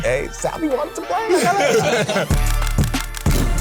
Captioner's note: more laughter; upbeat funky music